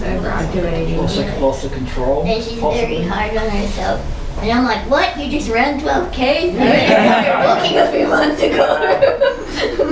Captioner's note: various audience answers